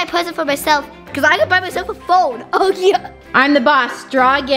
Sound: giggles

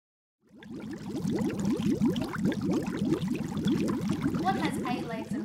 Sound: sound of bubbles popping

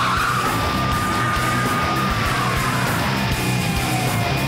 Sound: police siren

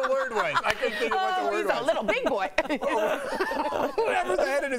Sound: laughter

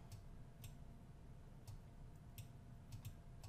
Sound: clicking

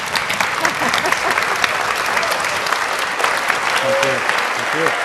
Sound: Rita laughs

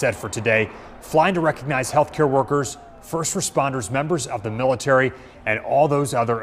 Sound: cheers

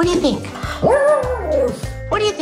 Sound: howling

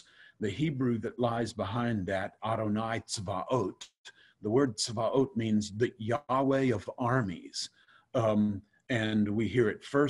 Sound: Hebrew

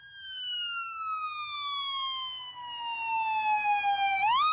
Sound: sirens wail

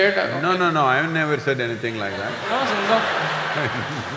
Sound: laughter

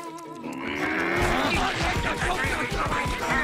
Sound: grunting

